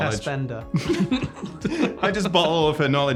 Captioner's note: both laughing